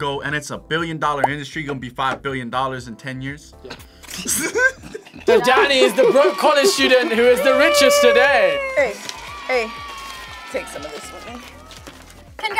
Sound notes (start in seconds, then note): 4.1 both laugh